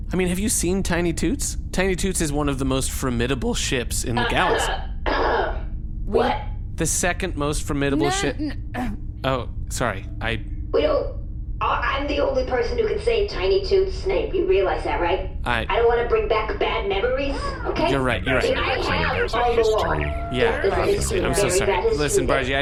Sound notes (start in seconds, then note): 5.3 coughs meaningfully; 9.7 clears throat